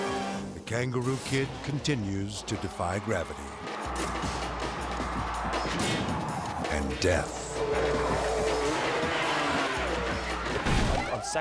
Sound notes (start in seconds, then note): 3.7 crowd cheering; 3.7 energetic action music; 7.7 engine revving; 10.3 impact pounds; 10.3 spectators shouting